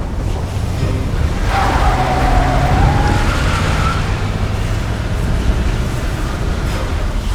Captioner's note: tires screeching